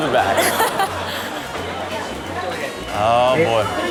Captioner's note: Chanel laughing